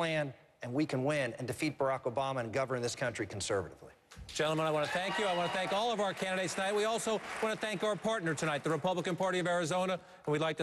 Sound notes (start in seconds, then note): 4.4 applause